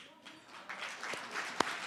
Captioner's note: applause